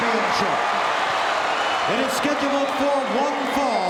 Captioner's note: audience cheering